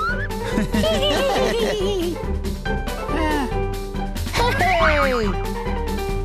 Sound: laughing

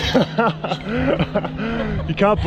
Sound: laughing

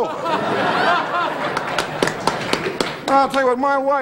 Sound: audience laughing

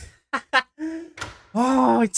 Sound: laughs!

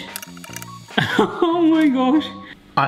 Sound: laughing

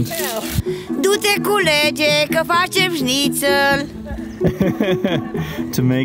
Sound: speaking Romanian; laughing

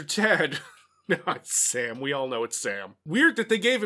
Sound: laughs

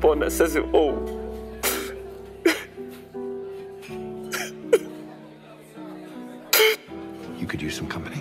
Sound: sobs

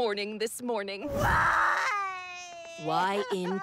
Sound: wailing

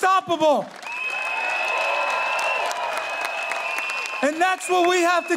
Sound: audience cheering

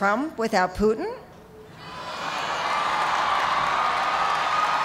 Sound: cheers and applause

